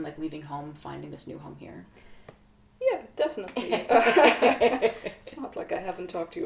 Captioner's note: laughter